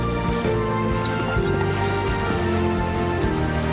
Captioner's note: mongrel whimpers